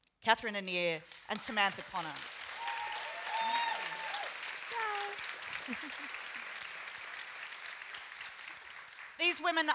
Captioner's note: applause